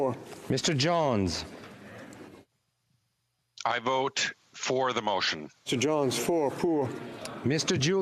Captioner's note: speaking FRENCH